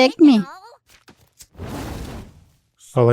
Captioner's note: fire whooshes